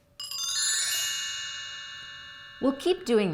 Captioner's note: bells chiming